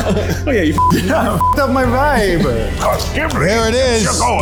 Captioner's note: beep